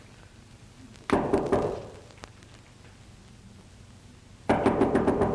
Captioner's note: knocking at door